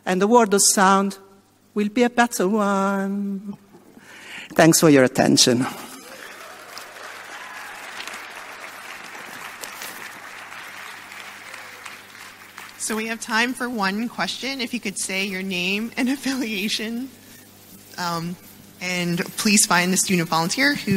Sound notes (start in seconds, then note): 5.8 audience applauds